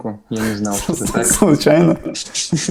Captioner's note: laughs